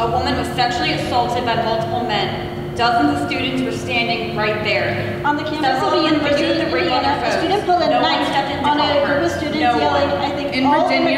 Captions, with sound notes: a woman was sexually assaulted by multiple men. Dozens of students were standing right there. (group chattering)